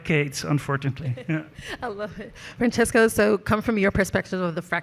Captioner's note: laughs